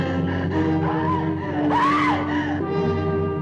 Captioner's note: scream